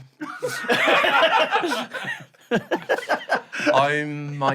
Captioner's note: raucous and slightly insincere laughter